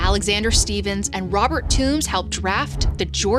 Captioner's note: graphics whooshing; graphic whooshes